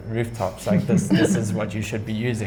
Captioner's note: laughs